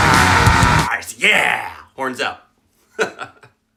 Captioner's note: maniacal laughing